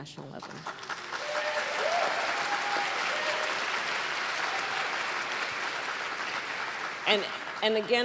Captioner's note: applause